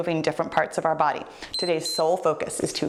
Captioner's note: timer beeps